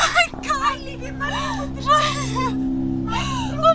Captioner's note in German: Unverständliches Wimmern, Schluchzen